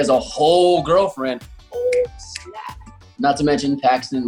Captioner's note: finger snapping